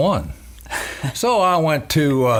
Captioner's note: laughing